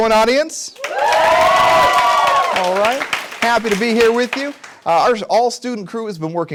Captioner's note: cheers